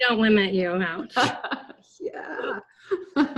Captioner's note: laughing